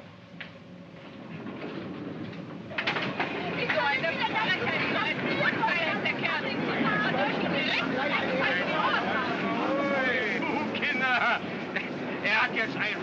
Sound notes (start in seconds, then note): 1.0 doors close; 3.4 all shouting in German; 10.2 speaking in German